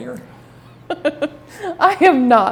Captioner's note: laughing